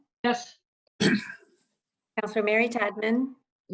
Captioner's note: clears throat